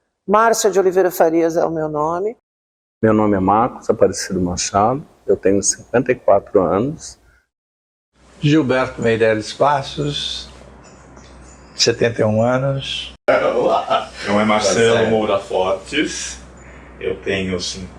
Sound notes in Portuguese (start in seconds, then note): 13.5 Gargalhadas